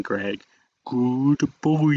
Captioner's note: good by said weirdly